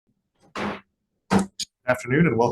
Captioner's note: banging gavel